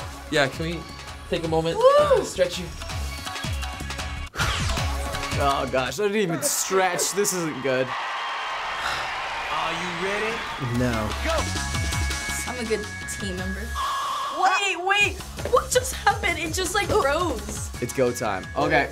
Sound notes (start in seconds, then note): 7.8 in game: cheering and applause; 11.3 frantic dance music; 13.6 song halts